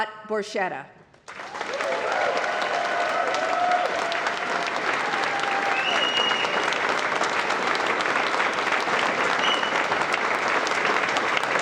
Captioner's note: applause